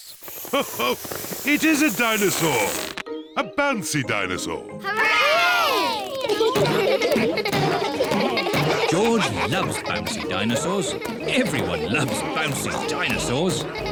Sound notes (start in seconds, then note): 0.5 laughs; 6.3 kids laughing